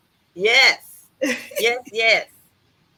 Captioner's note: laughs